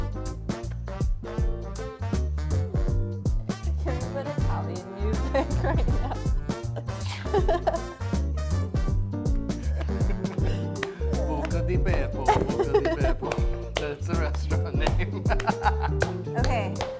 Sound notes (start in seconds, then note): 1.1 Italian